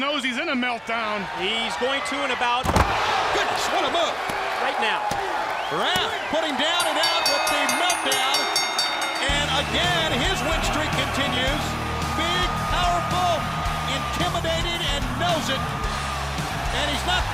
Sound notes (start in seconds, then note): 8.5 bell ringing